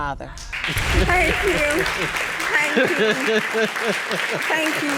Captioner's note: audience applauds